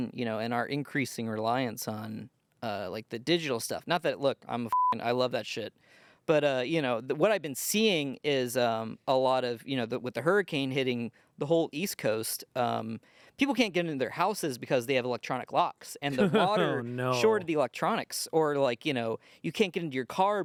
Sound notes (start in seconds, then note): 4.7 beep